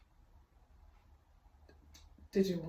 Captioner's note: uncomfortable silence, Pt. 2